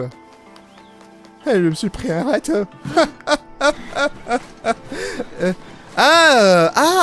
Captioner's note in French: Rire saccadé